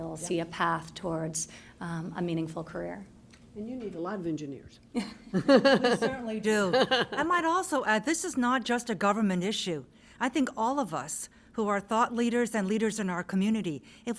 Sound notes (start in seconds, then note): 4.9 laughter